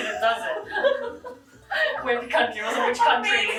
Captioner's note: both laughing